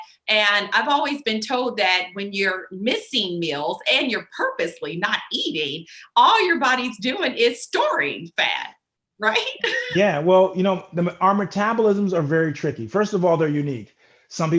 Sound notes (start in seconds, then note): 9.6 chuckles